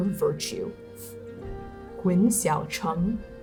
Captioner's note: scoffing